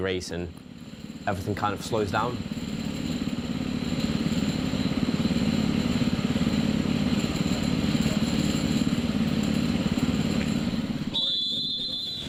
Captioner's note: engines rumbling